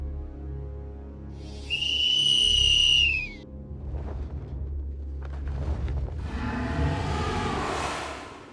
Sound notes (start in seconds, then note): 1.4 whistle blows; 2.0 dragon growls